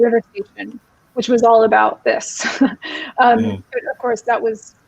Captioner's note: chuckling